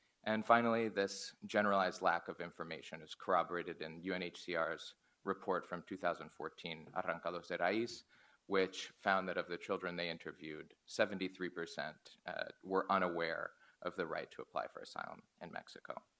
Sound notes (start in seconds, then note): 7.1 foreign language